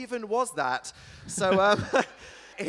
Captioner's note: giggles